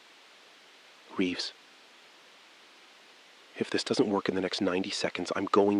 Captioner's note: SILENCE — 6 sec